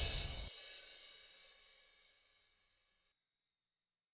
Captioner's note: whooshing air